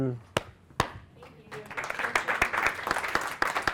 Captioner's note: clapping